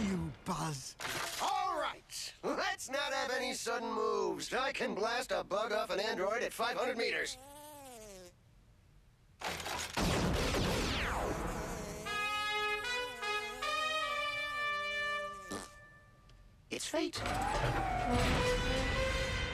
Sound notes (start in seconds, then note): 7.5 buzzes; 11.0 buzzing